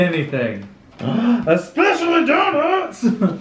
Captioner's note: gasp; laughs